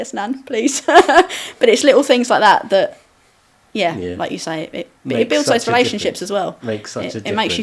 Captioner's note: laughing